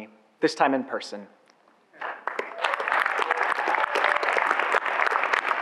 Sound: audience applauds

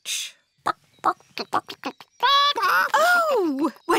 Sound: clucking

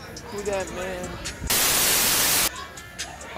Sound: TV static

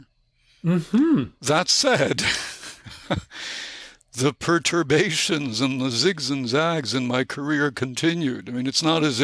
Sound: chuckle

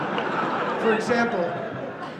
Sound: clap in Audience

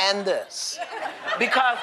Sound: laughter

